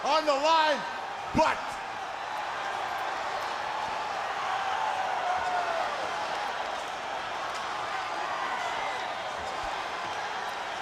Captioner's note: crowd cheering